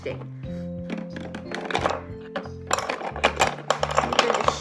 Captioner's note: rattling sound